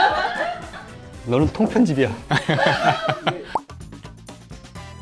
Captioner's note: laughs